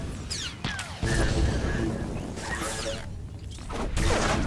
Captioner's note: gunshots